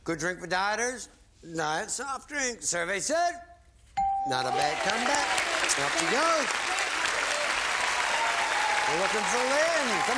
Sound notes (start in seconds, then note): 7.7 applause